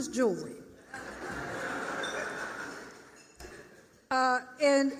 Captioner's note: laughter